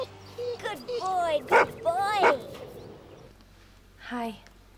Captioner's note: barking